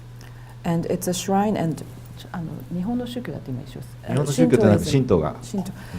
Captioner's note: speaking foreign language